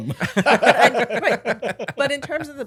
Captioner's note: laughing